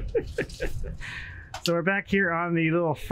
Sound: chuckles

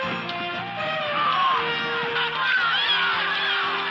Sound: cheering

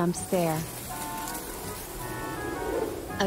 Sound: sound of wind and leaves

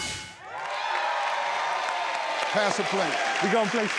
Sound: clapping

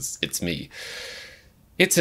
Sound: inhales sharply

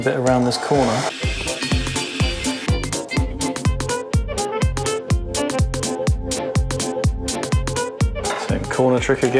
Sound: hair Dryer and then more jazzy charlestonian musings

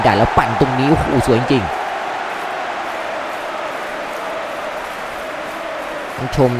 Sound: applause

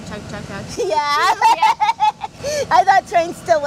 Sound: laughs

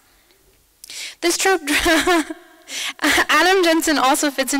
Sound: laughs

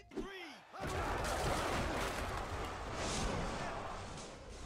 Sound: yelling and crashing

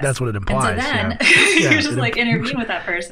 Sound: laughter

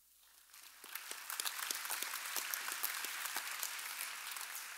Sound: audience applauding

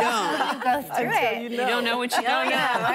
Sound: laughter

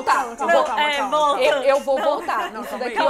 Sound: all stuttering

